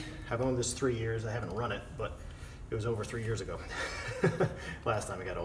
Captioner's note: chuckles